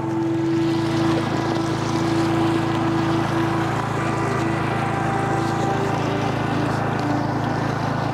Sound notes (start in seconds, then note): 0.0 motor rustling; 0.0 tranquil music